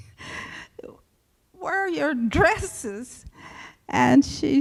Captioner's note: laughs